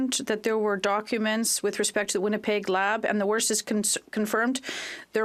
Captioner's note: speaking French